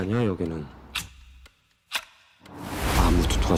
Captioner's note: foreign language; clock ticking; whooshing; foreign language